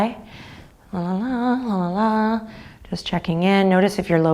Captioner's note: humming